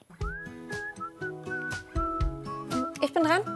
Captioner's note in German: gelangweiltes Pfeifen